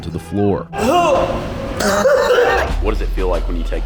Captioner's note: coughing